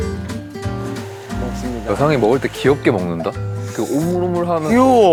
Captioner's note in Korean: 호호